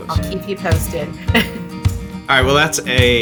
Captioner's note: laughs